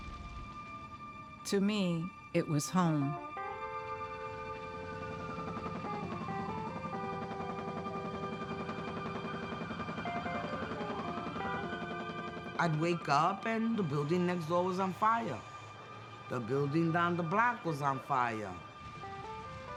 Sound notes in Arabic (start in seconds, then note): 4.9 صوت صفارات الإنذار; 4.9 هدير شفرات المروحية